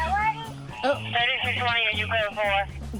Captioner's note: radio beeping